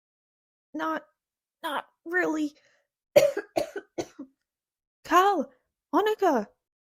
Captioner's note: coughs